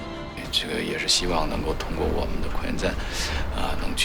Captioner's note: Yang Liwei speaking foreign language